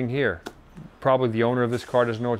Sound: claps hands together

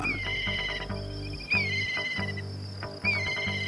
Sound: bird chirping

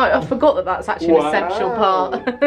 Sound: laughing

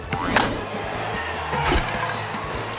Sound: cheers and applause

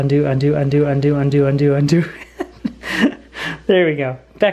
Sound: laughs

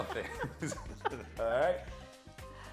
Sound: both laughing

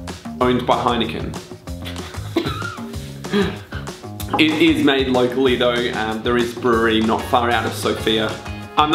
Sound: laugh

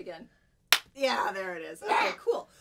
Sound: claps hand

